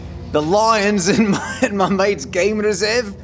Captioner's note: laughing